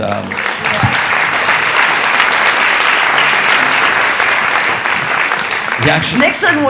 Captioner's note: audience applauding